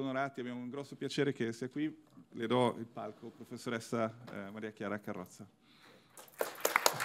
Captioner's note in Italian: Applauso